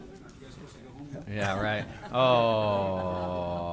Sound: laughter

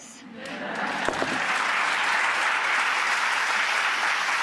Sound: audience clapping

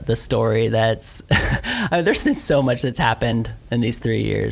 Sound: laughs

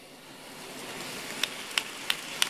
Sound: applause

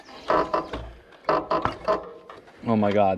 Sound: bridge creaks

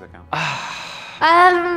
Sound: sighing

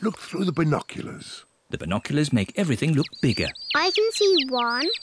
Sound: chirping

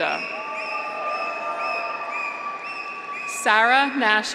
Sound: graduates cheer

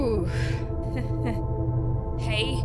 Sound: nervous laughter

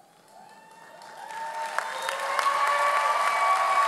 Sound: audience applauding

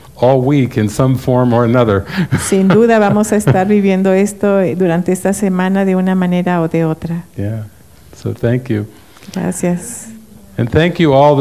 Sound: laughs

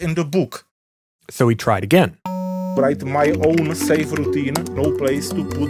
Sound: typing

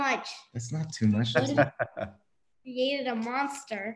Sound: laughs

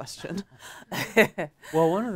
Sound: chuckles

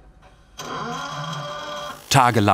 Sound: machine noise

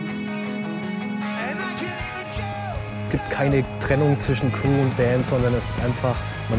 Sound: applause

